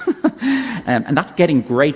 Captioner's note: laughs